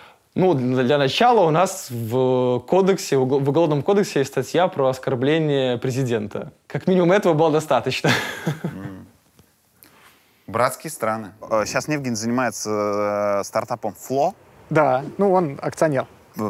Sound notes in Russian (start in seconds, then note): 8.1 смеётся